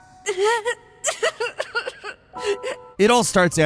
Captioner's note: Emil sobbing